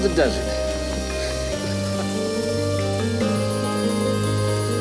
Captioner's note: Anthony chuckles